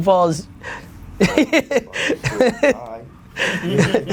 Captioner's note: Gary laughs